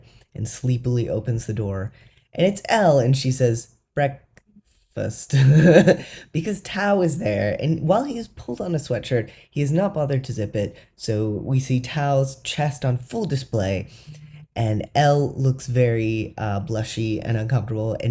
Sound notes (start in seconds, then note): 5.6 laugh